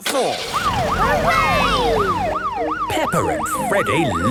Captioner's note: siren